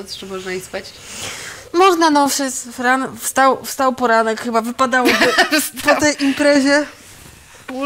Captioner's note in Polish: śmiech